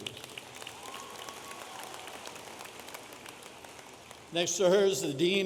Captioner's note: audience applauding